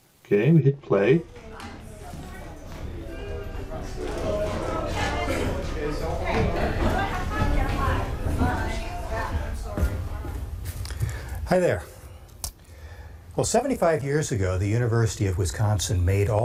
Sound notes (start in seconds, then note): 6.0 chatter